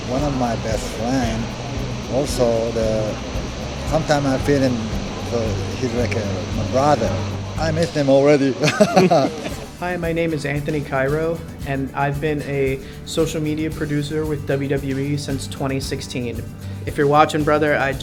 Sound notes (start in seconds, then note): 8.6 Shinsuke Nakamura laughs